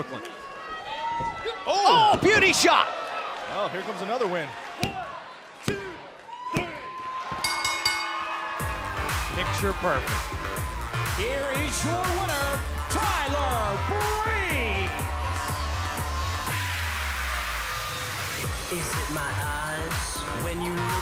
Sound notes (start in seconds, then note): 7.4 bell; 9.3 cheers & applause